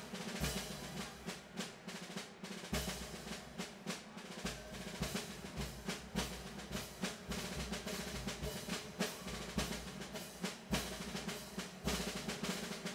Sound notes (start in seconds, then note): none